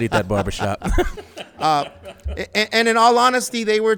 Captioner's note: laughs